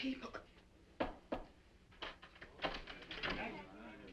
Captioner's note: door knocking